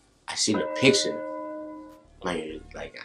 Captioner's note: bell dongs